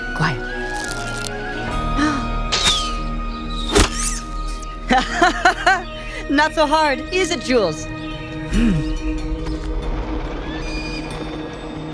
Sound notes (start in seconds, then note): 3.4 hare squeaking; 4.9 laughing